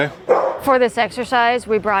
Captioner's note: dog barking